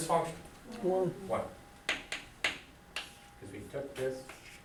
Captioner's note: voiceover